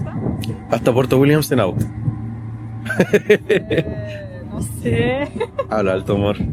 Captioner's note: hehehehe